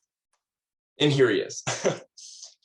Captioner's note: chuckles